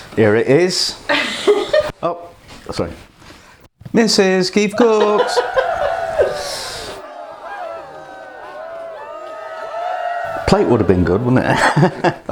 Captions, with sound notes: "here it is. Oh, sorry" "Mrs Keef Cooks!" [ WILD CHEERING AND ADULATION ] "A plate would have been good wouldn't it"